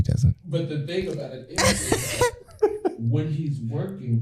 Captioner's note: laughter